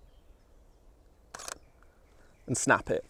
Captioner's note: shutter sound